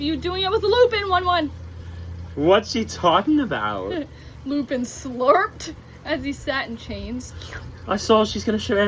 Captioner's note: slurps